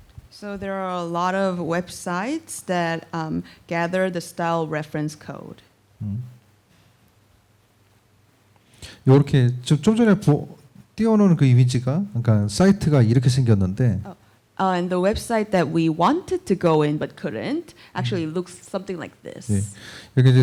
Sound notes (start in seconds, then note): 8.9 speaking korean; 20.1 speaking korean